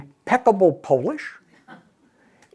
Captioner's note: throat clears